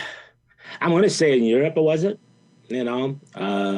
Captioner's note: sighs